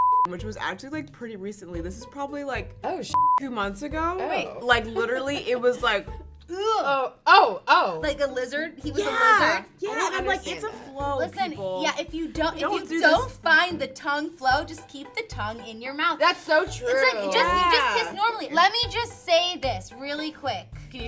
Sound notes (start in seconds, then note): 0.0 beep; 3.1 beep; 6.5 girls gagging